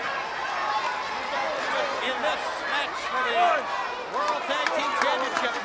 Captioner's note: presenter speaking faintly off mic